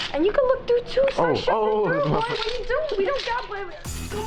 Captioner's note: laughs